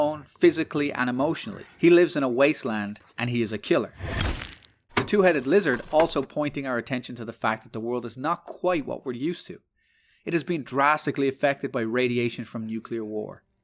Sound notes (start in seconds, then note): 4.1 Squelch; 4.7 click